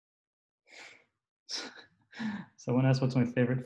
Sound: laughs

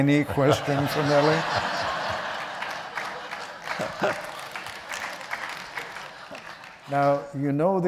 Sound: applause

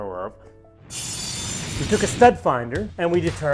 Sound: whooshing sound

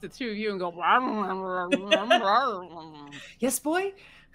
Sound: Neb growls

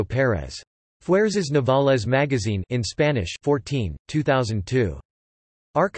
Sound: in Spanish

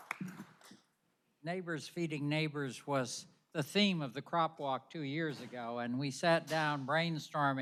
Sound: applause

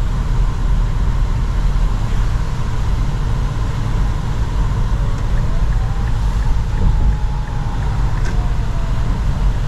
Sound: sirens can be heard, albeit slightly

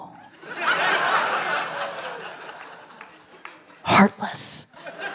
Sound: laughter

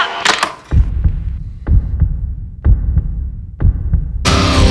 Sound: heartbeat pounding; upbeat rock music

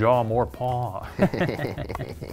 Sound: laughter

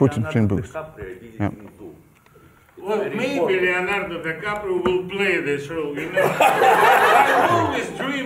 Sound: laughter

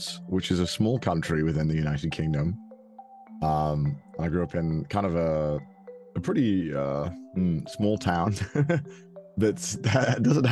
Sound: laughs

